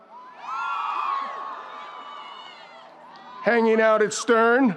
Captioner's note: crowd cheers